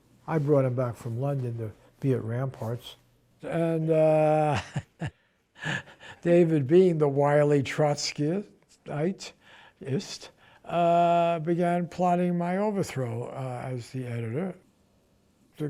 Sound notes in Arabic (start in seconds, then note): 4.1 يضحك